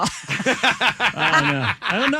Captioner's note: laughing